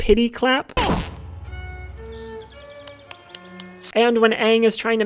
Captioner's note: clapping sounds